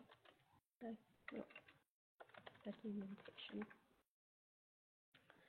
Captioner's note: computer keys clicking